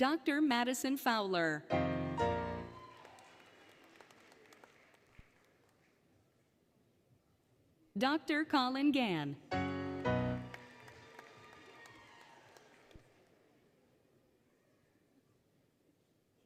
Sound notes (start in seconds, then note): 2.4 applause, Cheering; 2.5 applause, Cheering, Music; 9.8 applause, Cheering; 9.8 applause, Cheering, Music